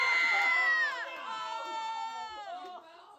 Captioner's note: room cheering